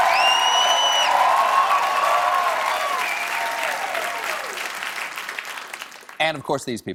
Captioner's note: cheers and applause